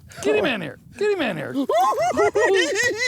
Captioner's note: giggles